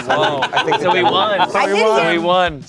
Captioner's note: everyone laughs